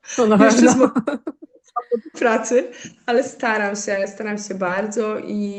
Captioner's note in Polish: śmiech